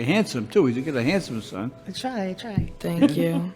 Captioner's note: chuckles